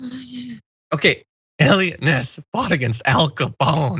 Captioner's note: laugh